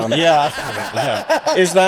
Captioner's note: laughing